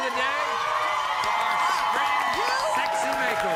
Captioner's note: audience cheering and applauding